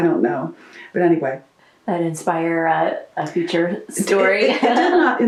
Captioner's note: laughs